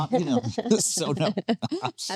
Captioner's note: laughing